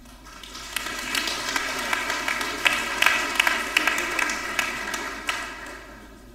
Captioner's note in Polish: oklaski